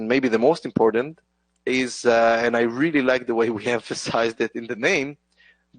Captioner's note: chuckles